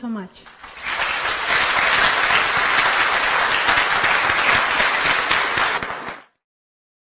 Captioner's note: applause